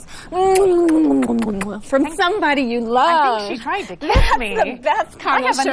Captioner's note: kissing noises; laughs